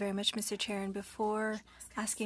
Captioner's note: speaking French